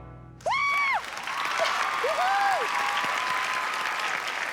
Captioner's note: applause